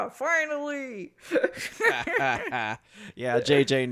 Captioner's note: both laugh and cackle